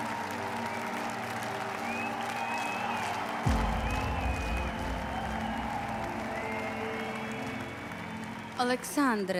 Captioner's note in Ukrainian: оплески